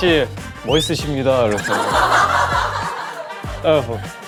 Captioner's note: hahaha